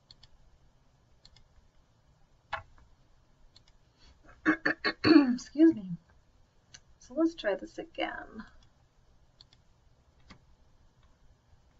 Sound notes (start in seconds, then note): 0.2 computer mouse clicks; 4.8 clears throat